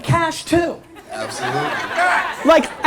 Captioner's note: audience laughter